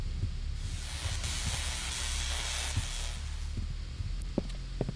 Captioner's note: electrical sounds